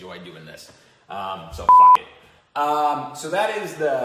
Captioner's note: beep